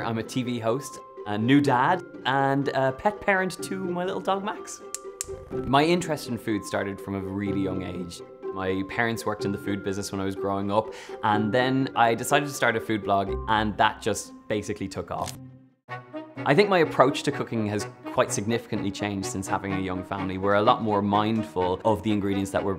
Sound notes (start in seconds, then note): 4.9 clicking